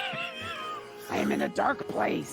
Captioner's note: laughing